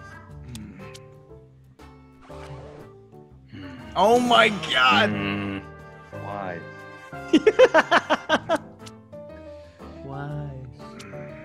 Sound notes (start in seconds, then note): 7.1 laugh